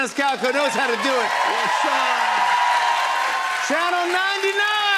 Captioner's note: cheers and applause